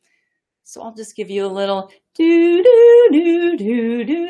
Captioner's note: humming